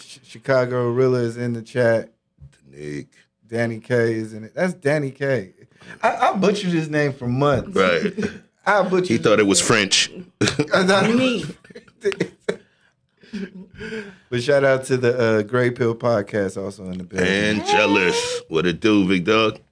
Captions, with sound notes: Chicago Rilla is in the chat. - Taniq. - Taniq is in it. That's Danny Kay. I butchered his name for months. - Right. - I butchered. - He thought it was French. - That's not me. (laughing) But shout out to the Grey Pill podcast also in the building. - Angelus, what it do, big dog?